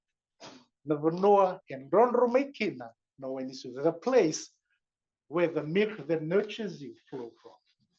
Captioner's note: non-english